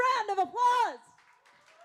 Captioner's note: applause